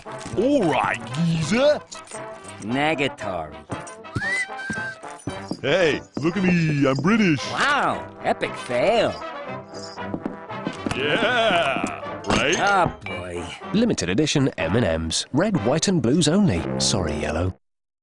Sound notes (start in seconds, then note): 4.1 whistles "Cuckoo"